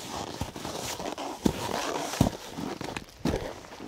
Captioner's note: snow crunching